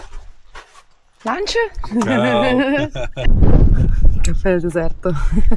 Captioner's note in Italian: risate